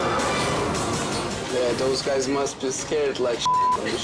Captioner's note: beep